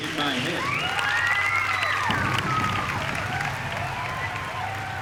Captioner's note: cheering